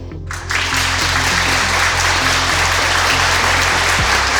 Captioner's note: audience clapping